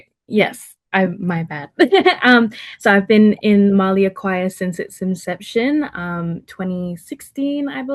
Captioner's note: laughter